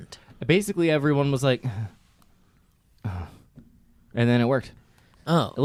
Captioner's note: sighs